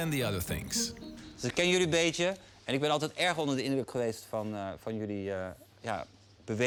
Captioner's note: speaking in foreign language